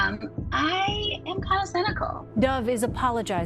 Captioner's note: soundbite of archived recording